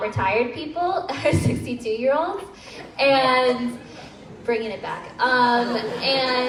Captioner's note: crowd laughs